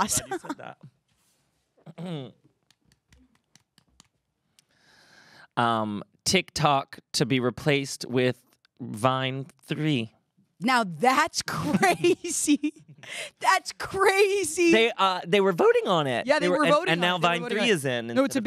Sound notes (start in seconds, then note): 3.1 phone tapping